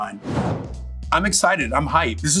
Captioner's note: dramatic whooshing